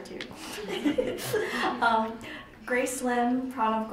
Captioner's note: laughing